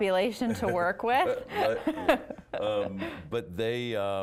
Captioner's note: both laughing